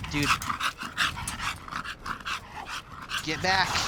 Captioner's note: dog panting